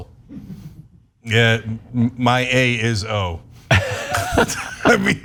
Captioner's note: laugh